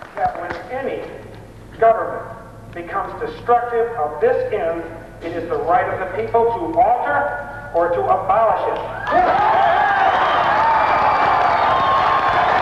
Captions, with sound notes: >> That when any government becomes destructive of this end, it is the right of the people to alter or to abolish it. [ Applause ]